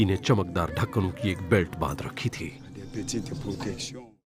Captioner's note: man speaks foreign language